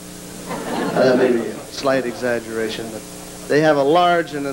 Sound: laughter

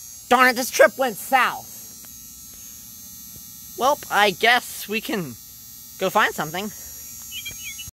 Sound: oriole sound

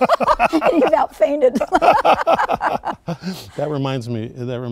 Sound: both laughing

